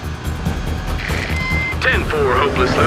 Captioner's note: radio